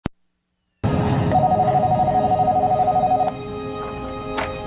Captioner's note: phone ringing